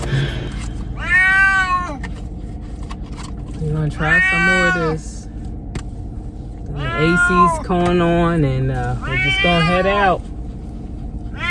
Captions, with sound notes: (MEOW) - WE'RE GONNA TRY SOME MORE OF THESE - (MEOW) - THEN THE AC'S GOING ON - (MEOW) - AND WE'RE JUST GONNA HEAD OUT - (MEOW)